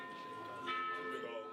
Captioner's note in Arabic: دقات الأجراس